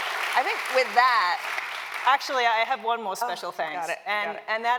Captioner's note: applause